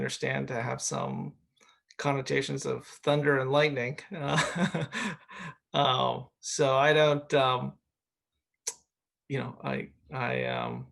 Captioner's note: chuckles